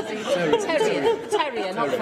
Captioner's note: laughter